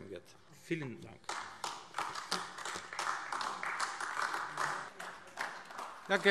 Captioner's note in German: Beifall AfD